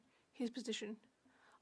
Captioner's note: speaking French